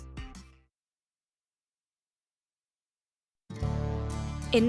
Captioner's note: silence